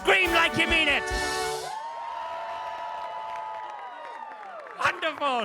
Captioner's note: audience cheers